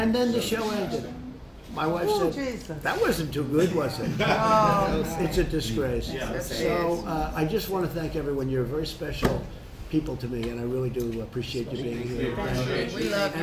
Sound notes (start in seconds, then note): 3.9 laughter